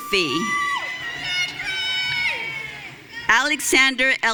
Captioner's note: audience cheering